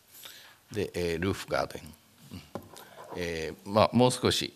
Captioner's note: speaking japanese